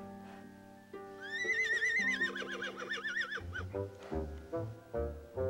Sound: pony neighing

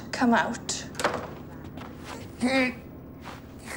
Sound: door closes; muffled groan

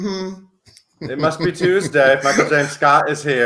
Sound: chuckles

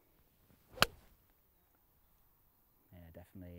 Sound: hitting ball

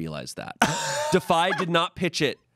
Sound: laughs

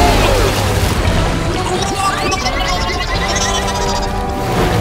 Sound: bubbling

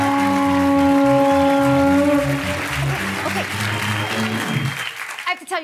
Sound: cheers and applause

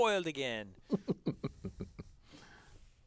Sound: laugh

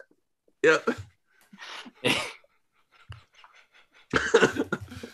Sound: laughter

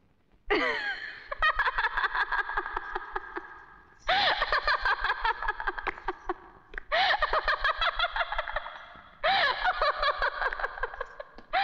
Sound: laughs

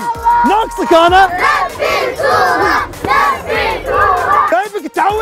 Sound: shouting; crowd chanting

